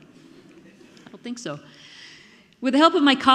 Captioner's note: audience laughing